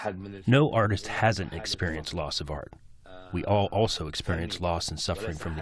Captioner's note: through translator